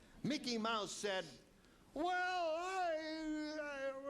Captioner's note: wailing